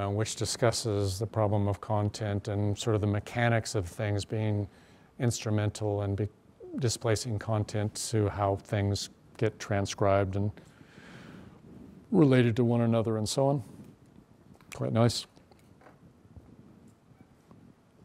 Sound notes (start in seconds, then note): none